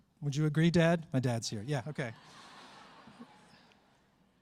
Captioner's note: laughter